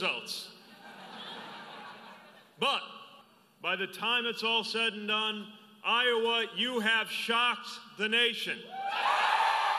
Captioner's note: laughter; cheers